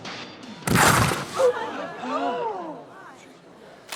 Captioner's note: Becky thuds; people gasping